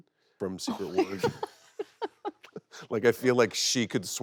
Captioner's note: Kristen laughing